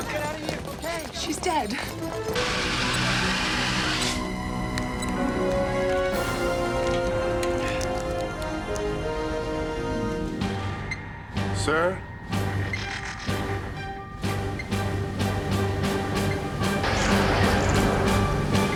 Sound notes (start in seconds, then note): 7.3 sighs